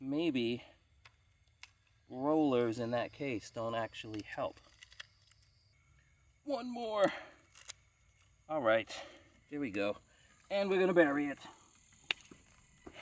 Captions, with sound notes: Maybe the rollers in that case don't actually help. One more. (clicking) Alright, here we go. And we're gonna bury it.